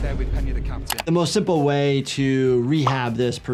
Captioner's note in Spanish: clics del ratón